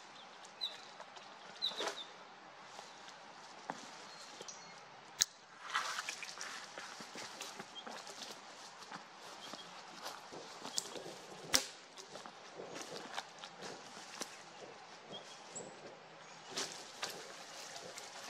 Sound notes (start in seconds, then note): 0.0 birds chirping: this one is called pine grosbeak; 5.7 branches cracking, footsteps, pine grosbeaks and chickadees enjoying their day